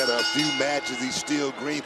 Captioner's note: bell rings